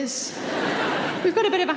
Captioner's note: audience laughing